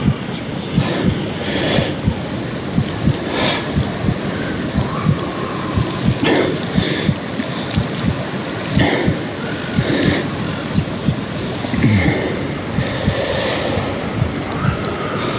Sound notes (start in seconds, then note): 8.4 water swishing